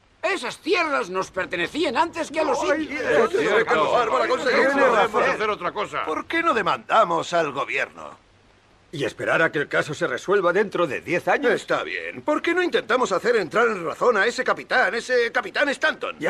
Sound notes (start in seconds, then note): 2.3 men murmur